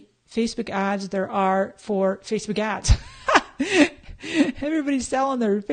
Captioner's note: laughs